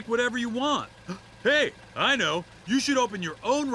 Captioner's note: gasps